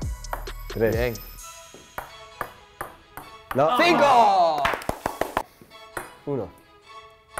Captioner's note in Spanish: aplausos